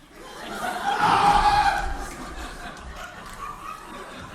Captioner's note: Cornelius screams